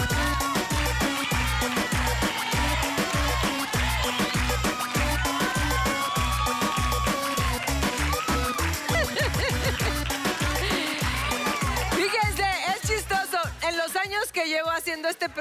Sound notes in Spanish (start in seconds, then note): 0.0 Aplausos; 0.0 Exclamaciones; 3.4 Exclamaciones